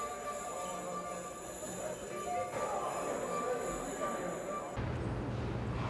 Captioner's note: horn squeaking, various conversations